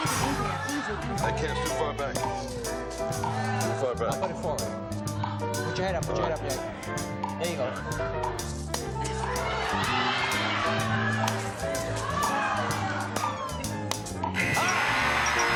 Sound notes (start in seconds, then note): 9.7 shouting